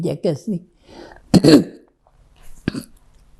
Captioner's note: clears throat